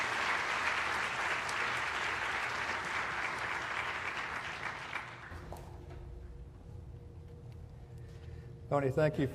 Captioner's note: applause